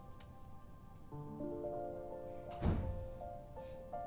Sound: door closes

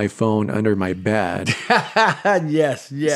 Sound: laughter

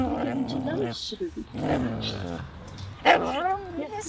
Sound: dog Barking & Growling

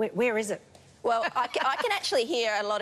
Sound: laughs

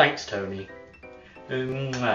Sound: kiss

